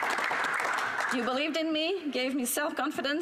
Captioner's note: applause